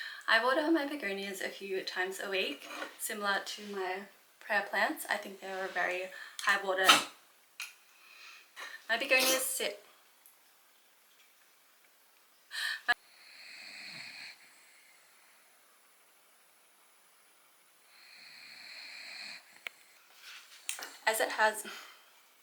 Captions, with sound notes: I water my Begonias a few times a week similar to my prayer plants I think they were very high water (loud snuff)... my Begonia's sit (sneeze).. (snores) As it has...